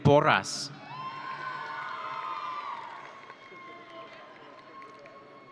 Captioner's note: audience cheering